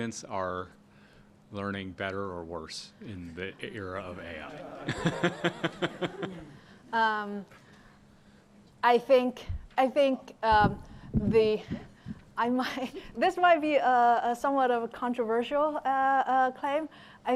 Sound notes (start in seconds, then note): 4.4 laughter